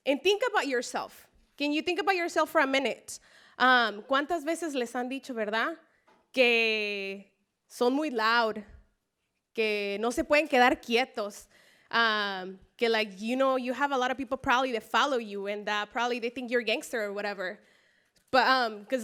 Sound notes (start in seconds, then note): 3.6 spanish speech